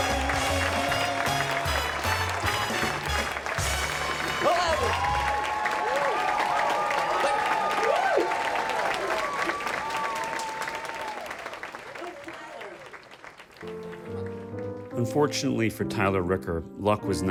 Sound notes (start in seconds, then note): 4.5 speaks faintly; 13.6 pensive music